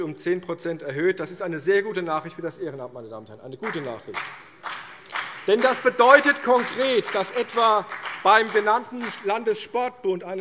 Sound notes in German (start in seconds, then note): 3.6 Vereinzelter Beifall CDU und BÜNDNIS 90/DIE GRÜNEN